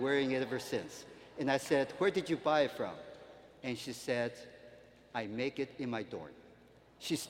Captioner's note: none